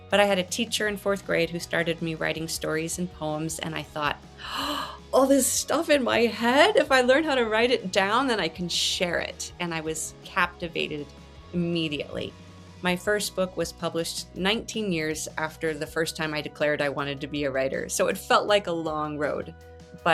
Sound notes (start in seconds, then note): 4.4 gasps